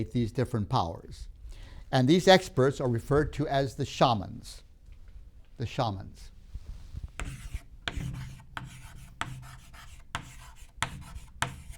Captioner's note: chalk sounds